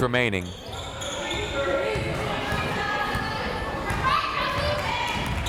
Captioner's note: crowd members shouting